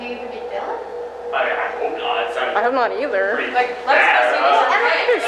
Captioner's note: stammering